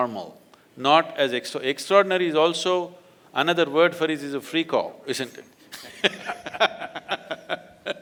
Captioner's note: laughs